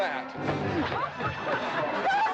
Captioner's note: smack